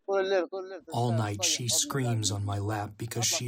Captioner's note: through translator